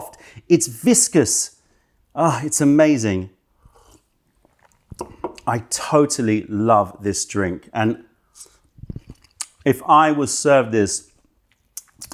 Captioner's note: sips tea